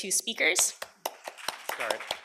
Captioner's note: applause